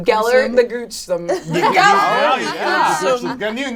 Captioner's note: all laugh